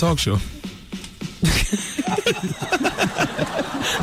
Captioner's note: laughing